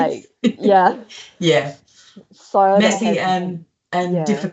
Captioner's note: laughs